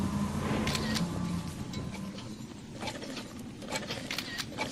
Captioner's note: camera shutters clicking